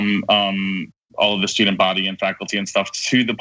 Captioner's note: laugh